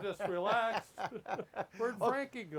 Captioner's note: laughs